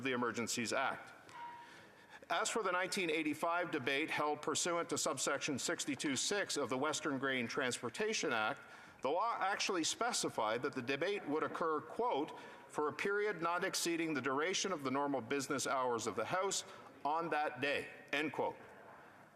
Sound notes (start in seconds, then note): none